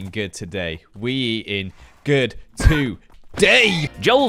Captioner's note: horse screams